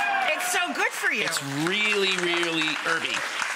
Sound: audience laughing and clapping

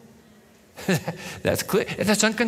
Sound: chuckles

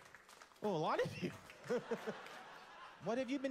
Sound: scattered claps; laugh

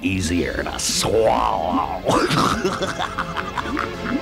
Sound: laughs

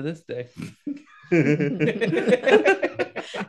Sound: laughing

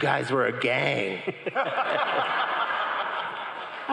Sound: crowd cheering

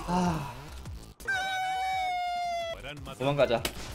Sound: crying

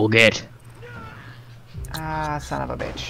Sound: in French accent; Ally character screams as the player is kicked from the match

